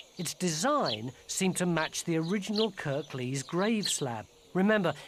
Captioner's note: none